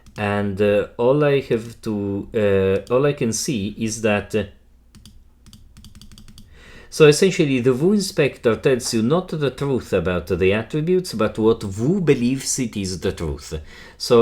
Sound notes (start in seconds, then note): 5.0 mouse button clicking